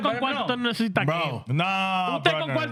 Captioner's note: speaking In Foreign Language